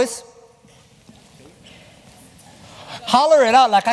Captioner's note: chatter